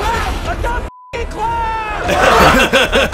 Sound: beeping

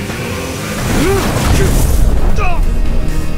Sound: Jin grunts; Hwoarang groans

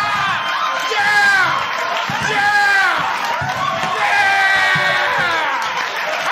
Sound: laughter, cheers, & applause

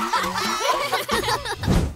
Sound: laughing

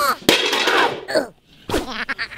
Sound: container clattering; Germy grunting; Germy giggling

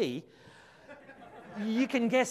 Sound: audience laughs

